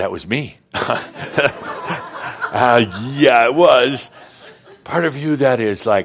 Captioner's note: laughter